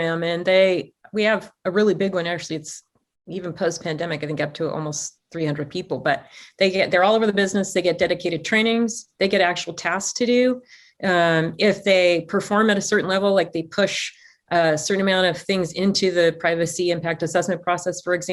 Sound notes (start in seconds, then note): none